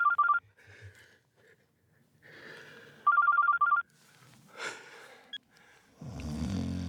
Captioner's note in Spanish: Suena celular